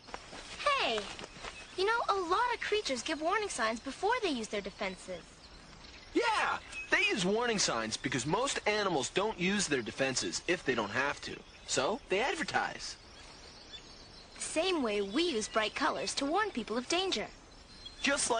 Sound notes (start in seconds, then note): none